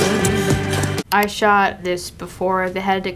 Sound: computer click

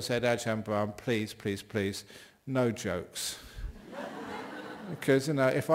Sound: laughter

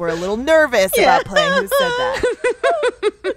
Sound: laughter

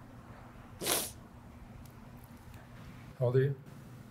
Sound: sniffling

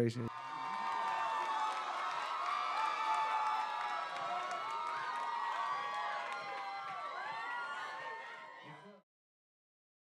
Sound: cheering

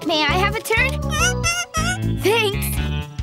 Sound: monkey noises

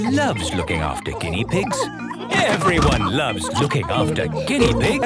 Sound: laughter

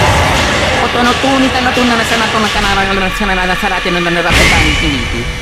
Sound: prays in tongues

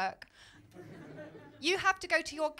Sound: laughter

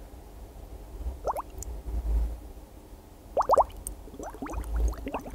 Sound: water bubbling

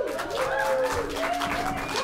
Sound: applause

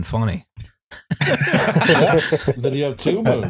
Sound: laughter

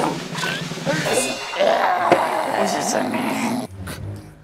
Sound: cheers

